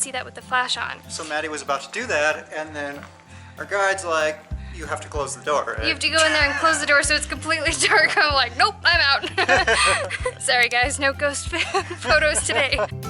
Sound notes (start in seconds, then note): 9.1 laughter